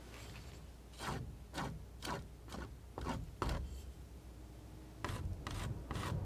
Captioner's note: scratching